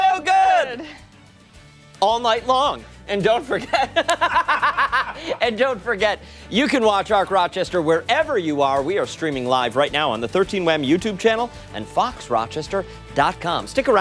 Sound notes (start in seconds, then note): 3.5 laughter